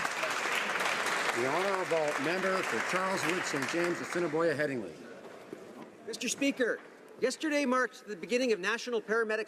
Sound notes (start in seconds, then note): 4.8 some Applause